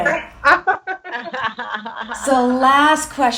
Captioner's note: all laughs